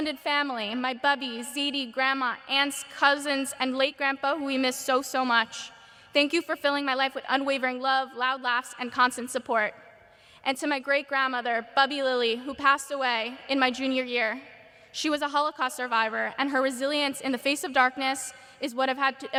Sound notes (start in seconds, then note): none